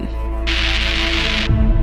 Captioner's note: TV static